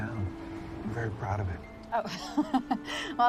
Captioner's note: laughing